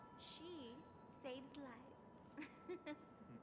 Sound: chuckling

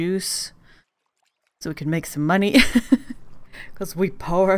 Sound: laughs

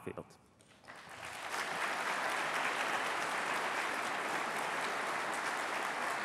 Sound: applause

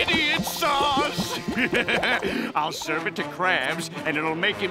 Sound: laughing

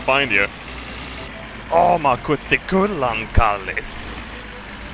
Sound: speaking Swedish?

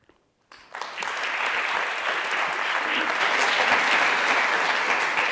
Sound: audience applauds

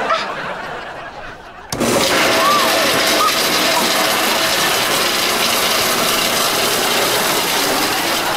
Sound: grinding

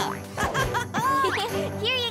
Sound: laughs

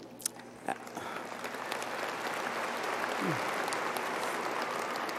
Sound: audience applauding

